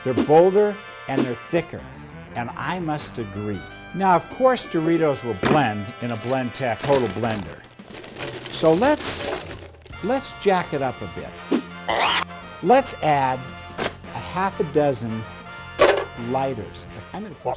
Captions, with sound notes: they're bolder, and they're thicker. And I must agree. Now, of course, Doritos will blend in a Blendtec total blender. So let's Jack it up a bit. (upbeat classical music) (graphics whooshing) (blender spins) Let's add a half a dozen lighters.